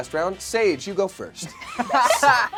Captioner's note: laughing